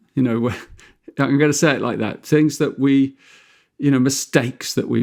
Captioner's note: chuckles